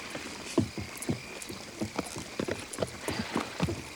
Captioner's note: hooves clop